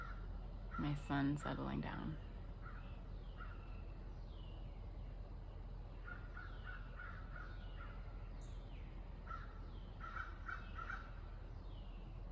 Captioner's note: bird sounds